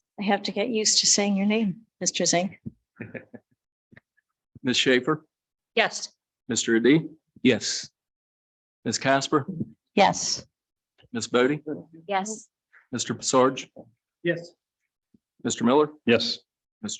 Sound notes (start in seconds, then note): 3.0 laughs